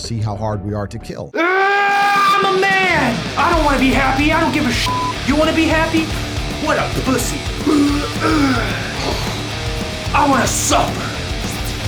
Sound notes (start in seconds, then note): 7.3 grunts SEXIER; 7.3 grunts; 9.1 flexing sounds